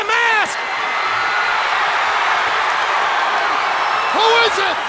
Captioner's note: crowd cheering